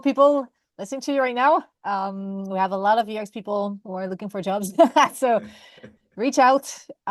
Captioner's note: laughs